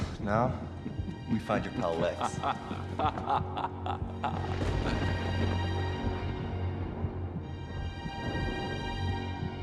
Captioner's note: evil laugh